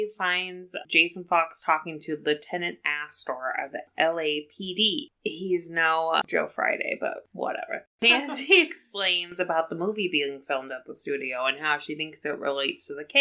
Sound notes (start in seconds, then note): 8.1 laughs